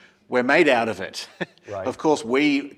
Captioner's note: laugh